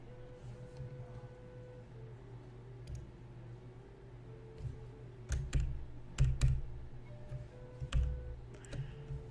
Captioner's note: clicking and typing, per usual